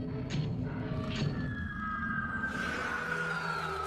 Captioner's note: roars